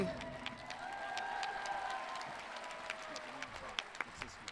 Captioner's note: audience cheering